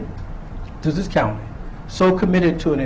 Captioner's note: none